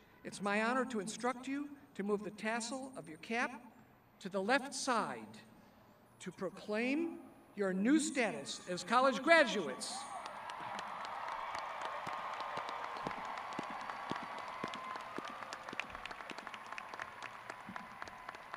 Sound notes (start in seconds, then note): 9.9 crowd cheering